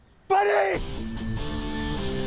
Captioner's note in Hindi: none